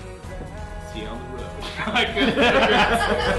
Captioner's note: laughter